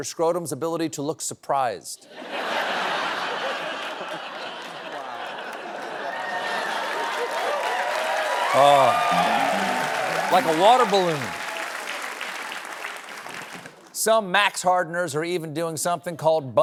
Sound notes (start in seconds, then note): 2.0 laughter; 5.7 cheering